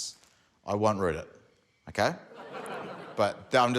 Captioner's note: laughter